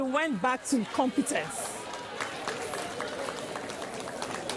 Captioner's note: applause